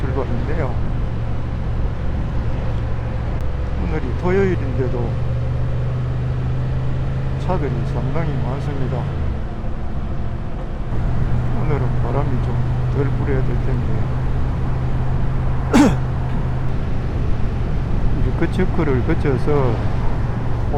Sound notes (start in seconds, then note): 15.7 cough